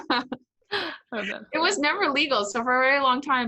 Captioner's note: laughs